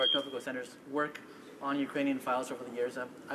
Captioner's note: speaking French